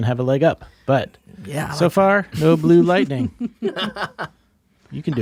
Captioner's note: Janet and Dante laugh